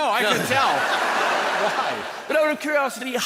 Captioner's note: people laughing